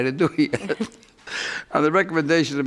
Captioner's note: man laughs